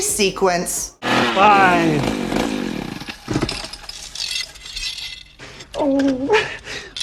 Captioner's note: sound of chainsaw dying